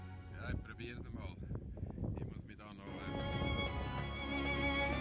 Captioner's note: Speaking Swiss German